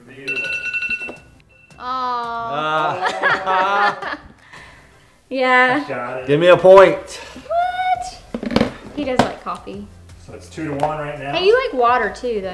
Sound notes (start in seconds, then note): 0.2 alarm dinging; 2.4 laughing